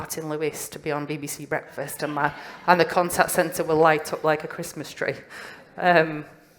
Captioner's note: laughter